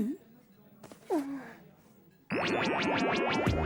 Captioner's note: sighs